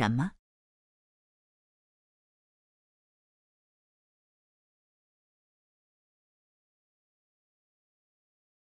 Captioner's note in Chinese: 空白_音频